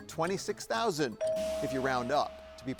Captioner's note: bell chimes